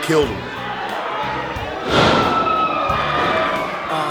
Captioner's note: crowd cheering in the background; thumping